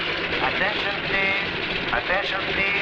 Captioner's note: man On Loudspeaker